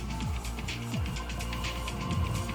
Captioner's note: hand pumping; oil pump spinning